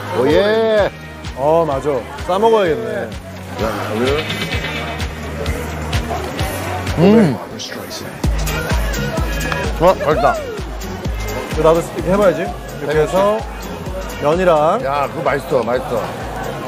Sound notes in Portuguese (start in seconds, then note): 6.9 Saboreando